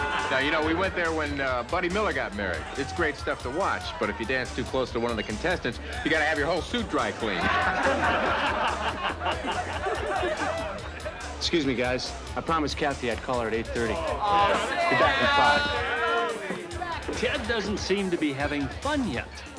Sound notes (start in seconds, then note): 14.0 booing